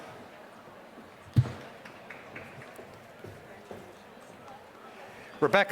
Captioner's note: applause